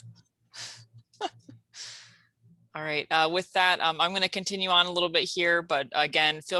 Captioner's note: laugh